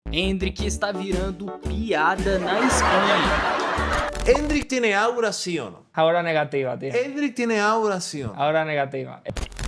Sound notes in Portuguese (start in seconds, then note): 2.4 risos